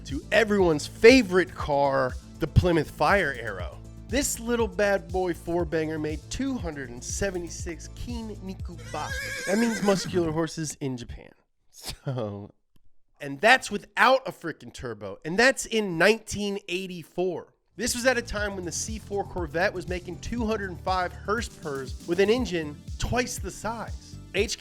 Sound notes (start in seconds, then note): 6.8 speaks in foe=reign language; 8.8 horse neighs